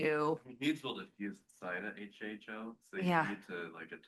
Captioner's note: attendee faintly speaks